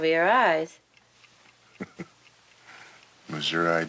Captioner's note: Barney chuckles